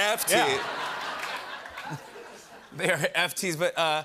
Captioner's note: laughter